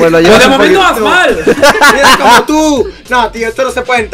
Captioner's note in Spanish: risa de api y un poco noni